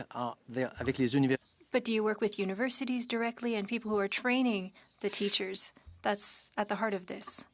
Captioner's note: speaking French